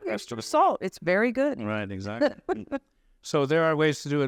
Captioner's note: laughs